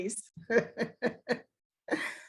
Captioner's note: laughter